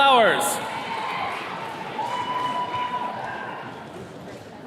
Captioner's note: attendees cheering